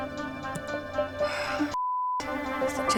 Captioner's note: sighs